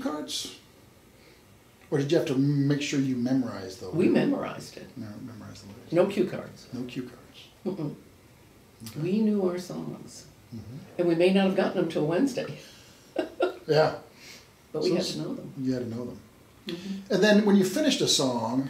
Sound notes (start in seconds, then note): 13.0 laughs